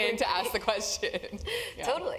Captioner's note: laugh